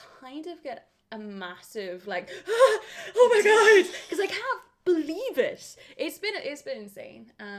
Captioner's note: breathes crazily